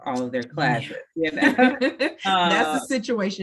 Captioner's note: laughs